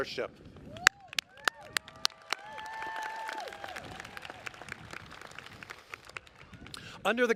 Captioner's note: applause